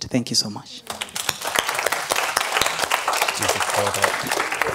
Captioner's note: applause